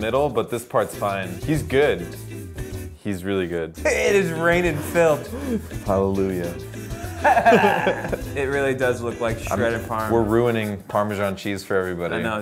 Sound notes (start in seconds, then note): 4.5 snickers; 6.8 both laugh